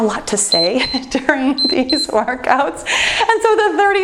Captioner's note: timer beeps